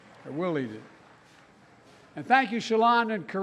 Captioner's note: applause